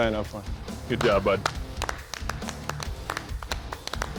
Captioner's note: clapping